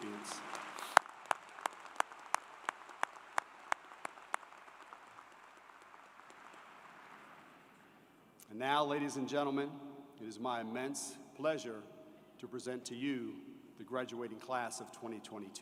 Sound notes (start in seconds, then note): 0.0 applause